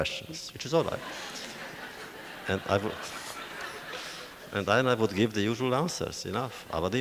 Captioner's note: audience laughter